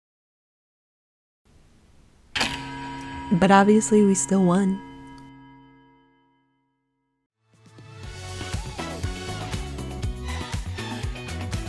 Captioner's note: final chime